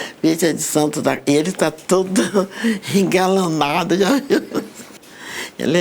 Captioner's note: laughing